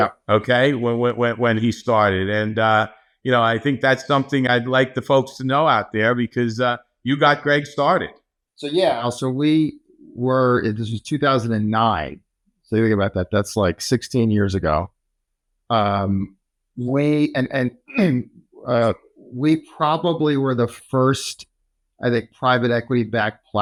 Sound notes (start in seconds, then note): 17.8 clears throat